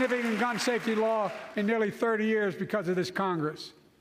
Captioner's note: HABLA EN INGLéS